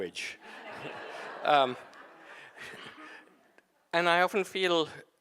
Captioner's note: audience laughing